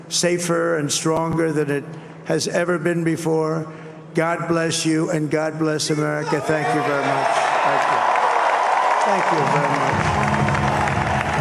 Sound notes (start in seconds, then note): 9.2 cheers and applause; 10.2 applause